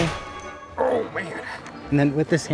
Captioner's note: groans